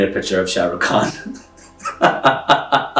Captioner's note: laughs